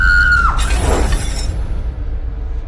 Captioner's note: mirror cracks